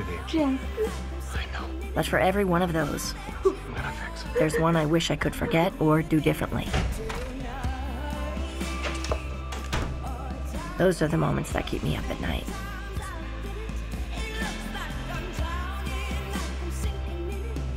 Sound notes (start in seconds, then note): 2.7 sobbing